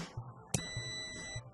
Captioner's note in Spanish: sonido: piiiiii